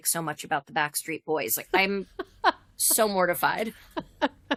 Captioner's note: laughter